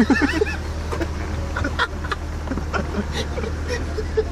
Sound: both laughing

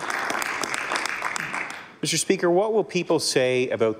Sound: applause

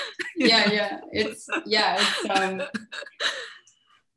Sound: shared laughter

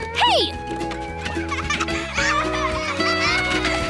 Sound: girls laughing; hawaiian music playing

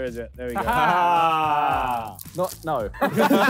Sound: all laughing

